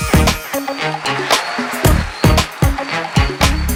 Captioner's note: applause, cheers